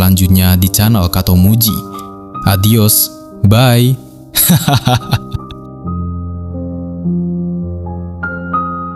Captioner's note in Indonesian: tertawa